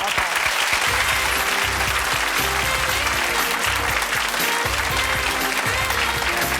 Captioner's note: audience applause; jazzy music